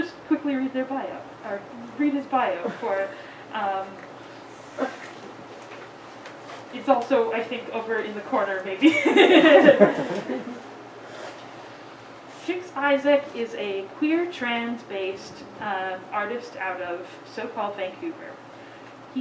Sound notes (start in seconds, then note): 8.9 audience giggles